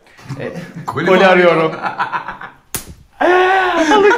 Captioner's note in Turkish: gülüşme